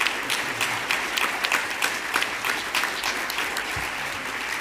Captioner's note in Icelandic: fagnaðarlæti